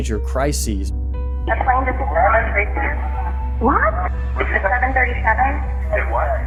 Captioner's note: soundbite of archived recording